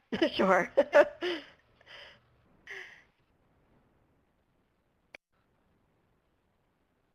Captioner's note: pause